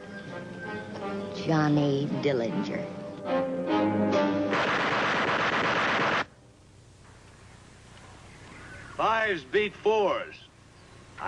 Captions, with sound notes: Johnny Dillinger. (dramatic music) (machine gun firing) - Fives beat fours.